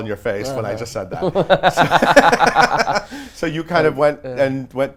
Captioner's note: laughs